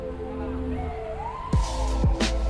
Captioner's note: police sirens wail